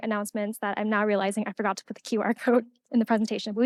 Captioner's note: laughing